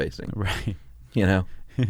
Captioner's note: laughs